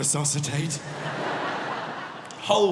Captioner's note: audience laughing